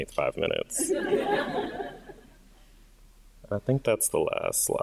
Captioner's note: audience laughing